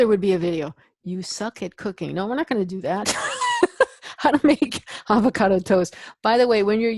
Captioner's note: laugh